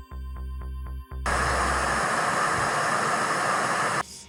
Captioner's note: loud static